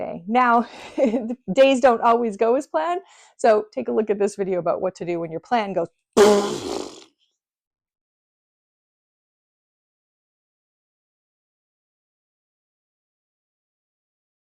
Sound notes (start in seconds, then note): 6.2 blows raspberry